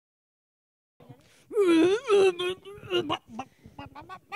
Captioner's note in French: étranges gloussements